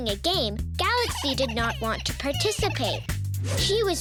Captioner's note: Earth whimpers